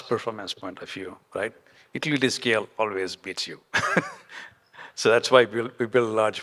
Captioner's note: chuckles